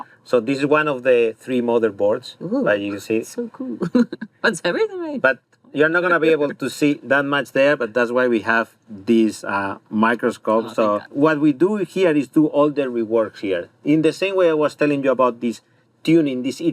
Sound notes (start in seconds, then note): 6.1 laughs